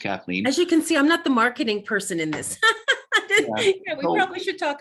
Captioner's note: laughs